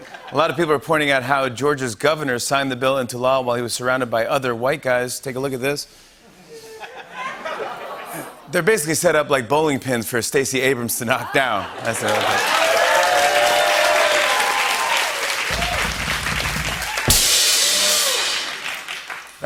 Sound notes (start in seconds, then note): 6.3 laughter; 11.7 cheering and applause; 15.4 drumroll; 17.0 cymbals crash